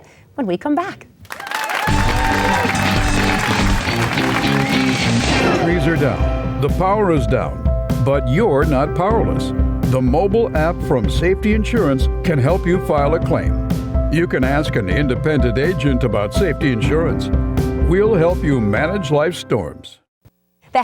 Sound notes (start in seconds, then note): 1.2 applause; 2.1 upbeat music